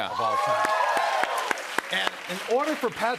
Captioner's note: cheers and applause